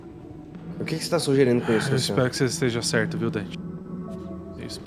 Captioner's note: sigh